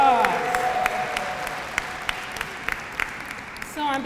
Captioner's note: applause